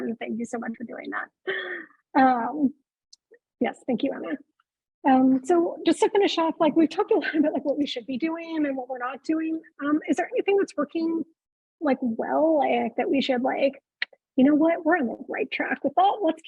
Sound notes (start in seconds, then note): 13.6 clicks tongue